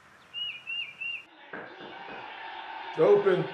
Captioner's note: door knocks